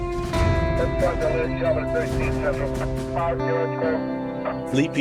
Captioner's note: police radio chatter